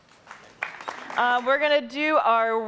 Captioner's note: audience applauding